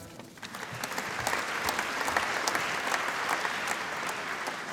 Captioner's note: applause